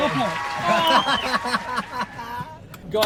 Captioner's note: men laughing